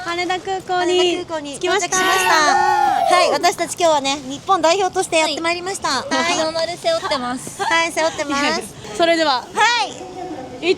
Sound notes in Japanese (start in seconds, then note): 1.9 叫び声